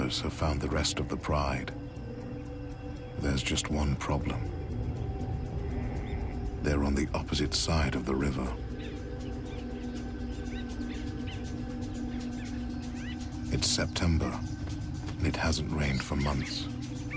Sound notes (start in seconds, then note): 10.1 birds chirping; 10.1 suspenseful music